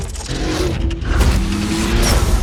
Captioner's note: engines roar